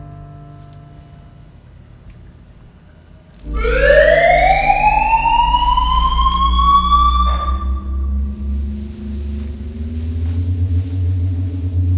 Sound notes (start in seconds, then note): 3.4 water splatters; 3.4 siren goes off